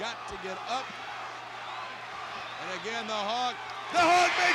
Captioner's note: applause